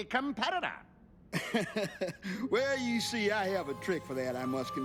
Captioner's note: chuckles